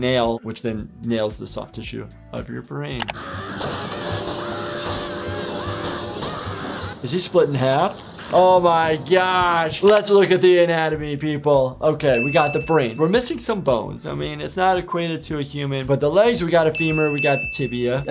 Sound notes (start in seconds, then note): 3.1 Handy screaming; 3.1 glass shattering